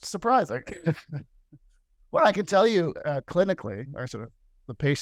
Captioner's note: laughter